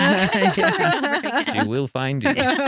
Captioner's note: laughing